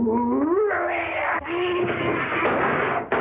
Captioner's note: table thudding